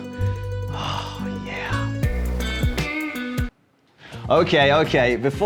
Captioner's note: host sighs, snaps out of it